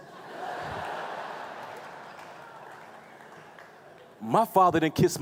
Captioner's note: laughing